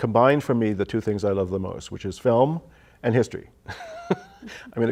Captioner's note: laughs